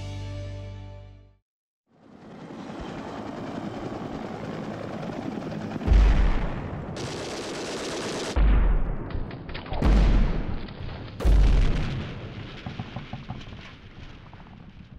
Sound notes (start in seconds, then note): 0.0 gentle music; 8.4 explosion booming; 9.9 guns firing